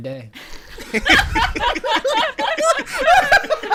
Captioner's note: laughter